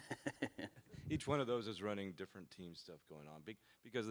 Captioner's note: laughter